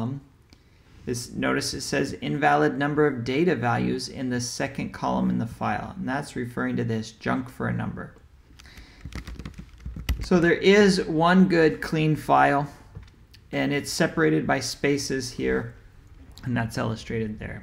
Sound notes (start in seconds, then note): 8.6 keyboard typing sound